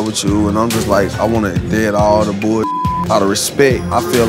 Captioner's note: beep